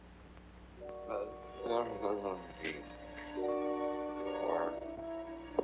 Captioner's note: moaning deliriously